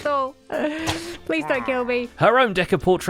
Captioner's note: Pillager noises